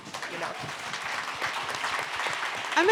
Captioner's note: audience applauding